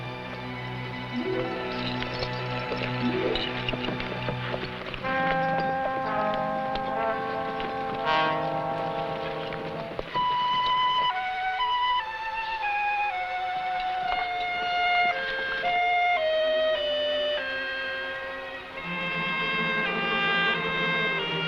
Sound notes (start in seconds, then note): 0.1 somber music; 4.4 horse hooves pattering; 14.6 somber music